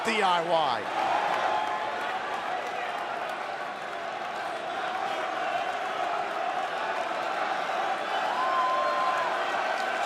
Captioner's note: crowd chatter